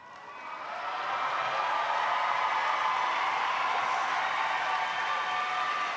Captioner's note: audience applauding